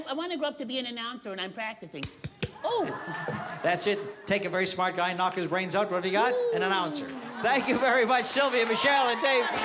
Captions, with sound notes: I want to grow up to be an announcer, and I'm practicing. [SMACKING] Oh. - That's it. Take a very smart guy and knock his brains out, what have you got? An announcer. Thank you very much, Sylvia, Michelle, and Dave